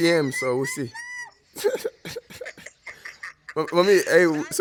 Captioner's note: laughs